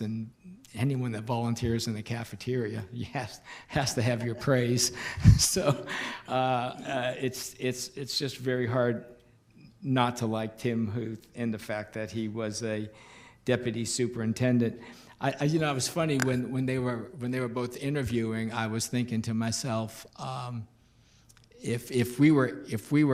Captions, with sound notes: and anyone that volunteers in the cafeteria has to have your praise (chuckles), so it's just very hard not to like Tim Huth and the fact that he was a deputy superintendent. It was funny when they were both interviewing I was thinking to myself if we were interviewing